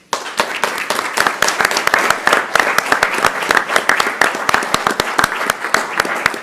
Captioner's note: applause